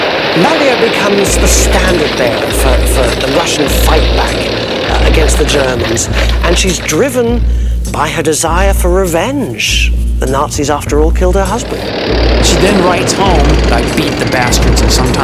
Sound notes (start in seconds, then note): 12.1 tank rumbling